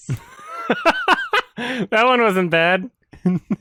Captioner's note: laughs